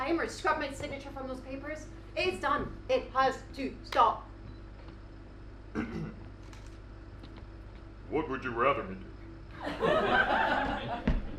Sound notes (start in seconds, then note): 5.7 clears throat; 6.0 in a deeper voice